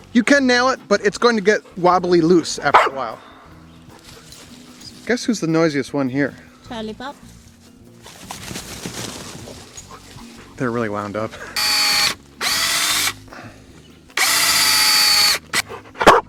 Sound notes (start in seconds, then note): 11.8 chuckling; 12.2 electric drill whirring